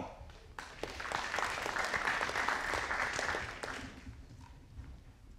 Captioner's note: audience applauding